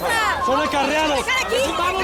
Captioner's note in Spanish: Griterío